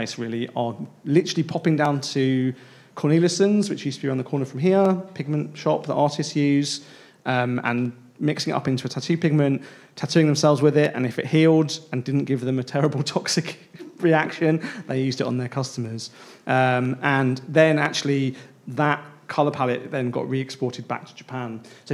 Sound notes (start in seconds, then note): 13.9 laughs